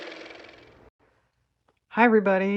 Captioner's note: car motor